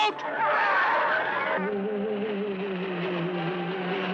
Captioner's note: man screaming